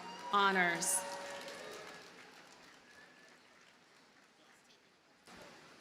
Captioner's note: audience cheers and applauds